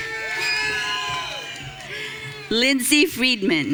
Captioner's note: audience cheering